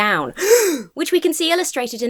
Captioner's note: gasps